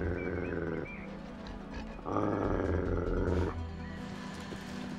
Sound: Elvar growls

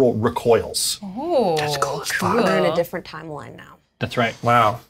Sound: whispers

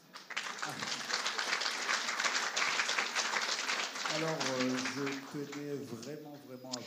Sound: applause

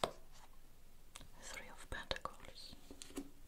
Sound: whispered

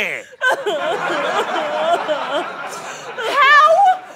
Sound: audience laughter

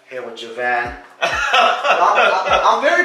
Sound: laughing

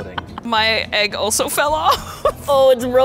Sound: laughs

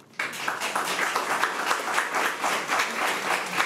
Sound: crowd clapping

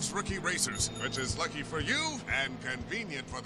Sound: bell dinging

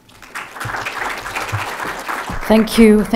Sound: audience applauding

